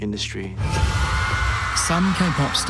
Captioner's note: audience cheers